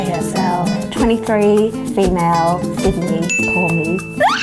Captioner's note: ding